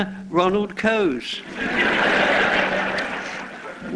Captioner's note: laughter